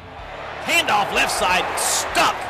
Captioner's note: crowd cheering